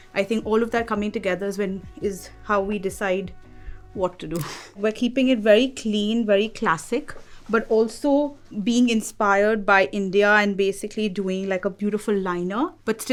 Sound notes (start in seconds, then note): 4.1 laughing